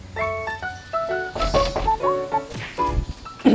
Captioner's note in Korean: 똑똑